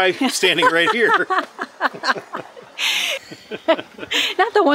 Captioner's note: laughter